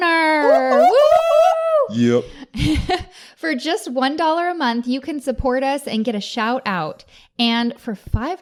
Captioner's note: cheering from all